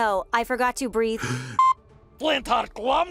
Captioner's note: gasps for air